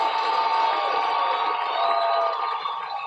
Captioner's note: cheers